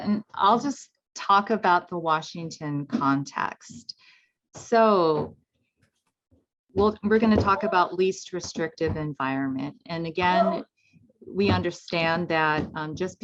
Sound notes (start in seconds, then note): 6.7 footsteps thumping